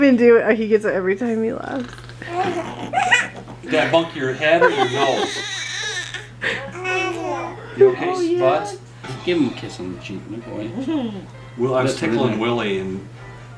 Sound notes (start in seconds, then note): 1.6 growling gently; 3.7 baby laughing; 4.8 baby babbling